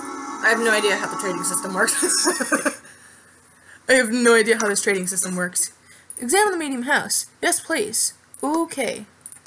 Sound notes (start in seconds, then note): 1.9 laughs